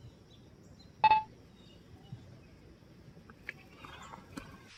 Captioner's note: phone beeping